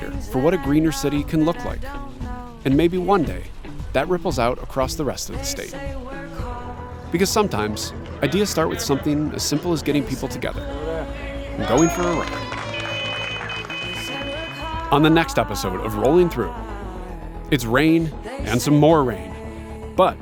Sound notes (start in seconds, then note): 11.6 people cheering